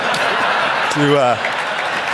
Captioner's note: audience laugh